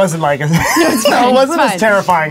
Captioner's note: laughter